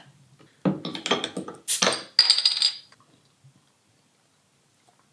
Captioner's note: bursting of air